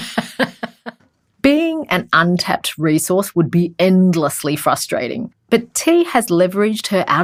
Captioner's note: laughs; voiceover